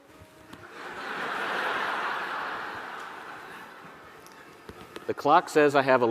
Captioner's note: audience laughing